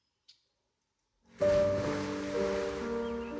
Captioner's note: sploosh